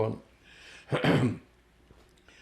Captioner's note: clears throat